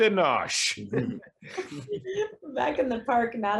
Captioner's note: actors laughing